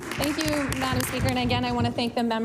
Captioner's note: applause